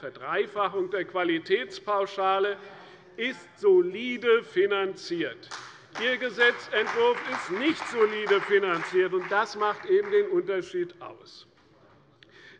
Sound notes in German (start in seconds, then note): 5.4 Beifall bei der CDU und dem BÜNDNIS 90/DIE GRÜNEN